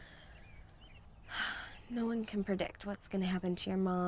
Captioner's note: sighs